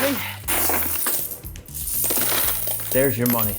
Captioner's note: coins jingling